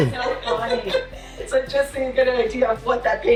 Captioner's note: laughs